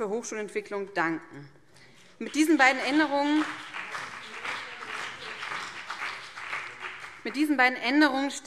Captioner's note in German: Beifall BÜNDNIS 90/DIE GRÜNEN und vereinzelt CDU